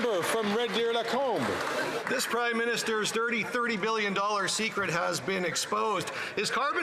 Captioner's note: some Applause